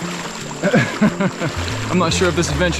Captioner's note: chuckles